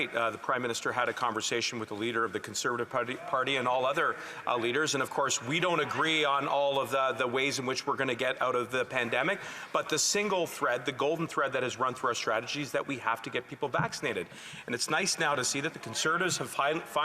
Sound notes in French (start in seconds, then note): 2.1 voix de l'interprète